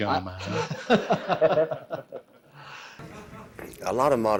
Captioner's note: everyone laughing